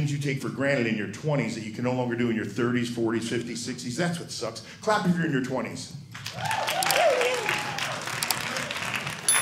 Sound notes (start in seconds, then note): 6.2 clapping